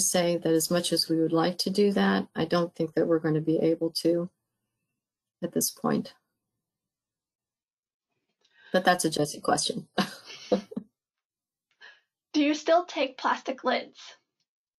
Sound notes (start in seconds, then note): 10.3 laugh